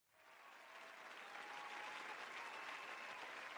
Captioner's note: crowd cheering